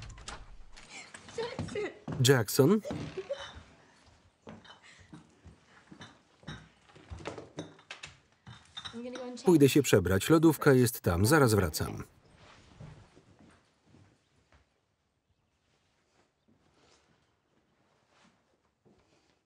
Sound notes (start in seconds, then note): 2.8 laughter; 4.9 bottles clinking